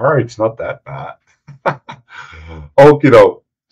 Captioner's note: laughing